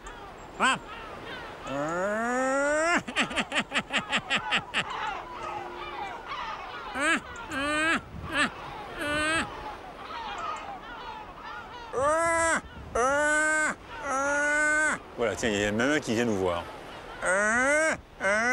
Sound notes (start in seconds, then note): 11.5 laughs